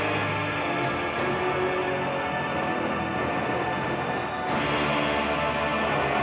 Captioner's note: explosions, burning